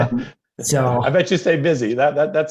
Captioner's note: laughter